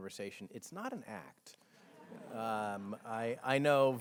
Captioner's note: audience chuckles